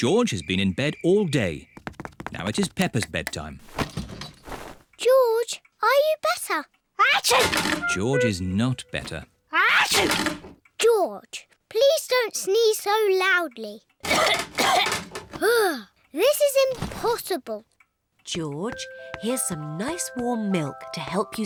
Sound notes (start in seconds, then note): 7.3 sneezes; 9.8 sneezes; 14.0 coughs